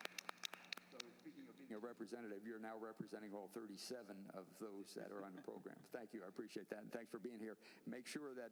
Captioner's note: applause